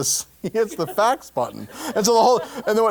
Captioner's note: laugh